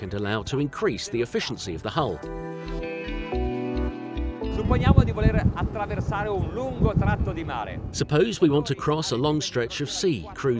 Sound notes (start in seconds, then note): 2.7 calm music; 4.9 speaking foreign language